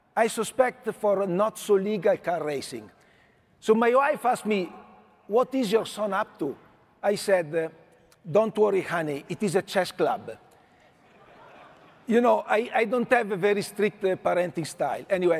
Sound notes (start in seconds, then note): 11.1 audience laughing